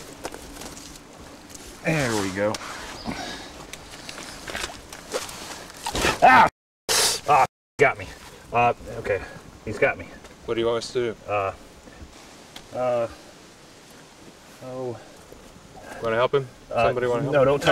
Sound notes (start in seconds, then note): 5.8 chomping sound; 5.9 yells out